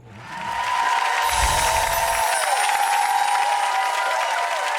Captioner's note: audience cheering and clapping